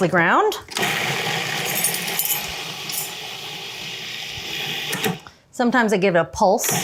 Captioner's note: food processor whirring